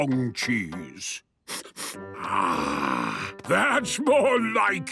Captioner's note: sniffs